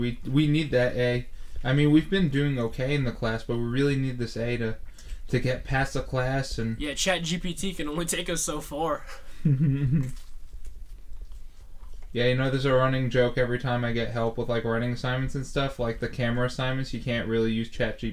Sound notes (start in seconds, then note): 10.8 Thomas chuckles